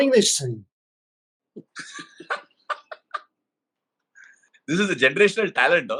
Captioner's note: laughterand applause all around, rightfully